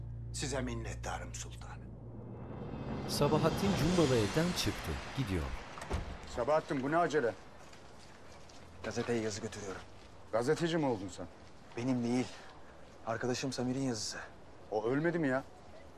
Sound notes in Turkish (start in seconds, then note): 3.9 Sokak ortam sesleri